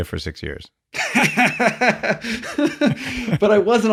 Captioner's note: laughing